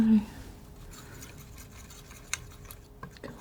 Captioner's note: scratching